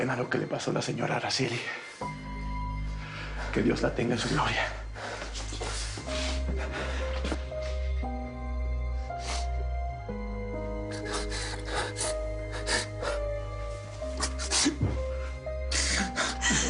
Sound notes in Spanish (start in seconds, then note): 10.8 Sollozos